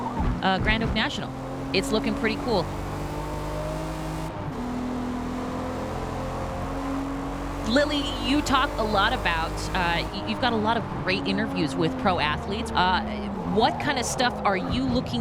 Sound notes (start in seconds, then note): 2.8 engine roaring